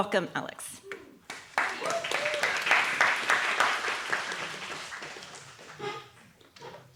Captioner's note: audience clapping